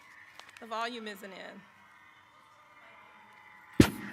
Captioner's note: cheering